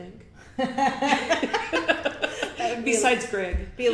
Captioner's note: both laugh